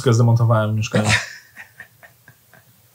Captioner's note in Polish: śmiech